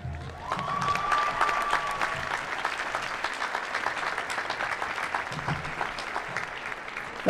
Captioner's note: applause